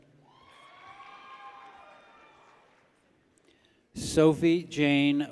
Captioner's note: people cheer